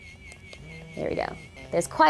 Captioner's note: loud vibrating